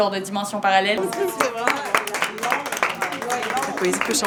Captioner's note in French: Applaudissements